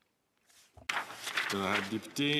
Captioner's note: speaking French